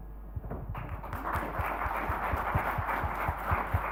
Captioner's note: applause